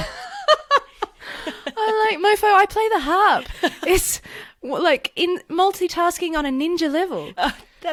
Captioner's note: laughs